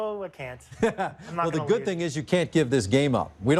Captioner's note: laughs